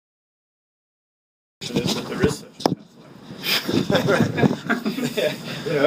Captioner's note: laughing